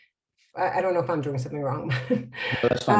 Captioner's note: laughs